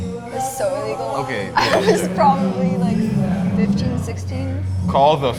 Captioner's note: chuckles